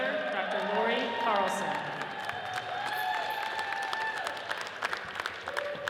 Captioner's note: audience cheers and applauds